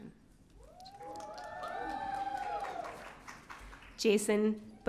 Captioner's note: audience cheering